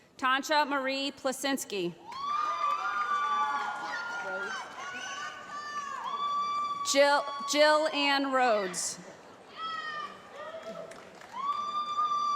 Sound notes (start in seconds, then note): 2.0 cheering; 3.4 shouting; 9.5 cheering